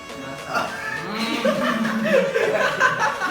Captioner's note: laughing